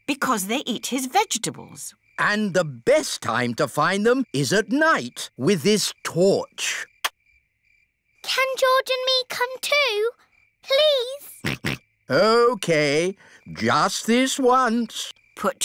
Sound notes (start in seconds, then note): 11.4 snorts